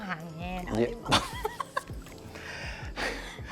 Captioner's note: laughs